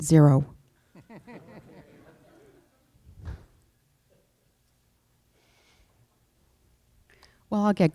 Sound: chuckling

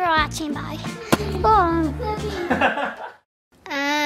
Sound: dad laughs

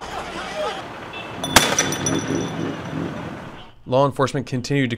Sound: yelling; bottle breaks and gunshot

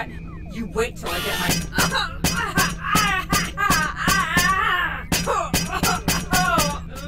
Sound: Azalla grunting; hammer clunking

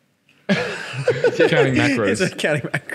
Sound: laughing

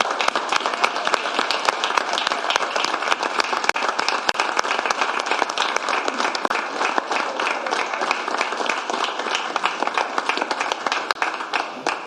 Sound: applause; cheers and applause

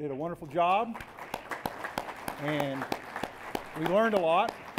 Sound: applause

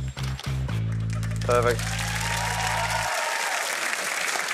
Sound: applause

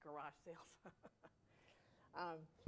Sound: laughter

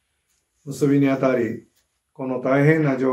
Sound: speaking japanese

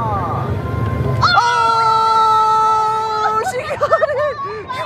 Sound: both screaming

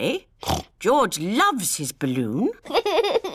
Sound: snorts; laughs

